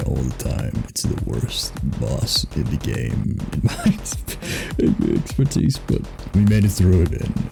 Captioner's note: wheeze